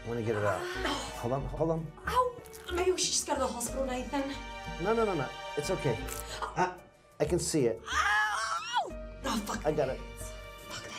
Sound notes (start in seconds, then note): 6.3 faint slither; 7.8 Lucia screams